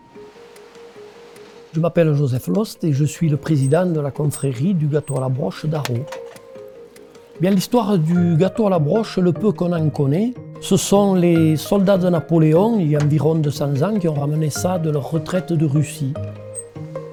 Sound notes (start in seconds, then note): 0.5 bright music; 2.2 speaking in foreign language